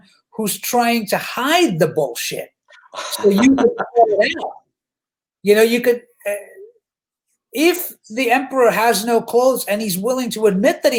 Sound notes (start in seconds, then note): 3.1 laughs